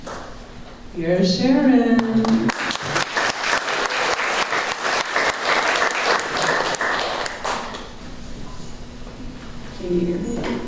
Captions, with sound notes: Here’s Sharon… (applause)